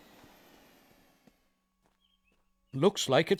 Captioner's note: lawn mower